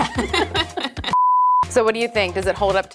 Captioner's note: both laughing